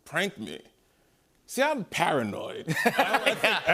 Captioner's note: laughter